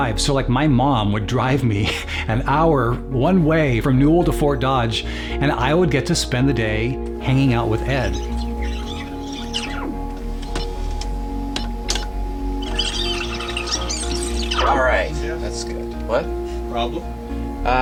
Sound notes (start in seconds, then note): 9.6 video editing noises